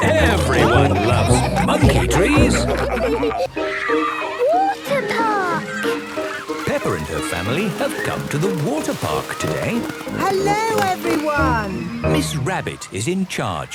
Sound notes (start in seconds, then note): 2.7 all laughing